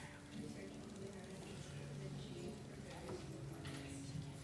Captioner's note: none